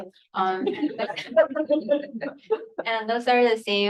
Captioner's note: people laughing